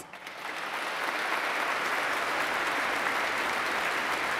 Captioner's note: audience clapping